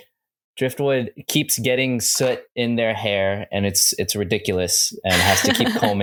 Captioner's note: laughter